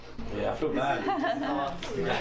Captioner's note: <i>giggles</i>